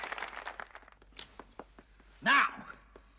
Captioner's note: Аплодисменты прекращаются